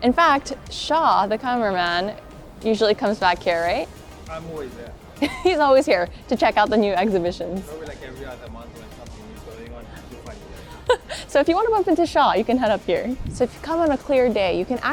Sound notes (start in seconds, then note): 5.2 chuckles; 10.3 chuckles